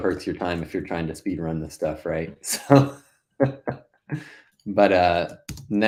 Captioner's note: laughing